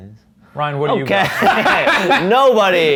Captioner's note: laughs